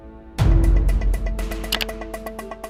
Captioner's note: timer starts